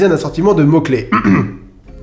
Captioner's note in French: raclement de gorge